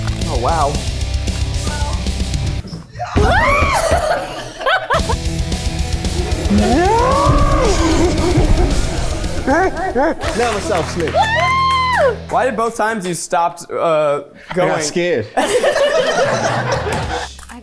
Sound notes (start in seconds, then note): 3.2 screams; 6.1 slow-mo screaming; 15.3 everyone laughs